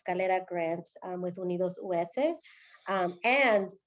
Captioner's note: speaking spanish